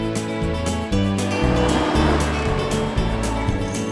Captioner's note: atv rumbling; wind rustling